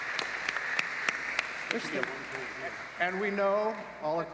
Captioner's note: cheering